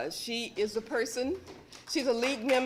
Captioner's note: applause